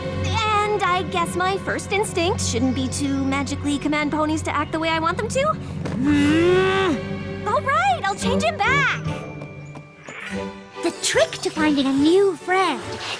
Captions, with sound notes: And I guess my first instinct shouldn't be to magically command ponies to act the way I want them to. [louder growl] All right! I'll change him back! The trick to finding a new friend